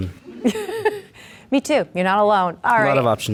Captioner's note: laughs